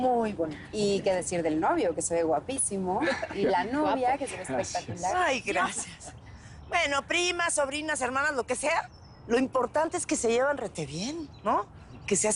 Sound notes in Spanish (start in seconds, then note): 3.0 Risas